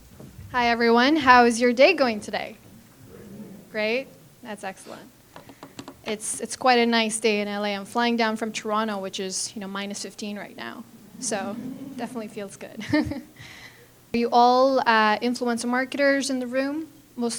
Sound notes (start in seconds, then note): 13.0 chuckles